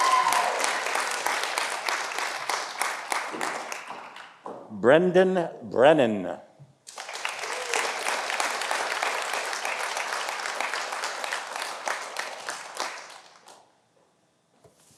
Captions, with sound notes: Brendan Brennan. (audience applauding)